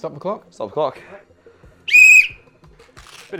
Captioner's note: blows whistle